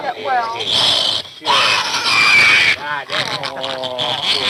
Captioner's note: pig squealing